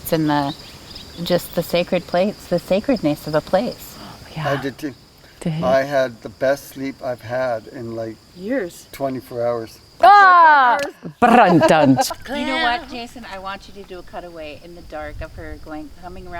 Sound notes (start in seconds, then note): 10.6 person shouting